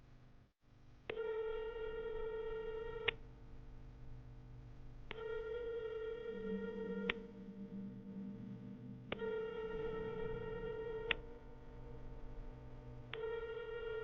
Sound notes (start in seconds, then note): 1.3 phone ringing